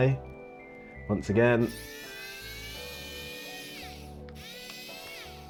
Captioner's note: screwdriver whirring